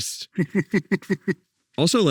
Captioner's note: group laughing